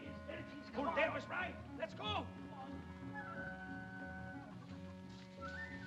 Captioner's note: men bickering